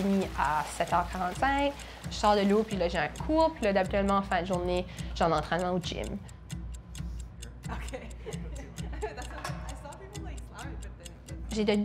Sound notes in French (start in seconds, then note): 7.6 son de chronomètre